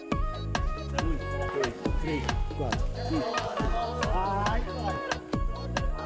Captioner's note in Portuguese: grita